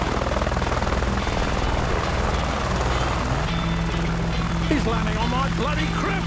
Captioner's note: helicopter engine whirring; upbeat music